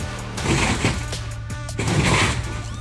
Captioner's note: crunching